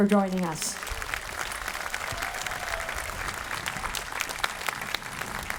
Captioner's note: audience applauding